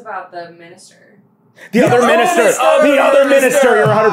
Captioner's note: gasp